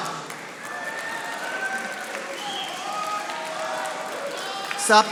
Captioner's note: audience applauding